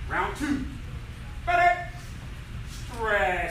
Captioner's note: enthusiastic shouting